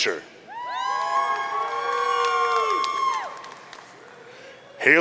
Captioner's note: audience cheering